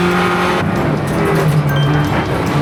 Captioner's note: brakes